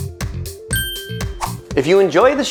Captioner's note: bell dinging sound effect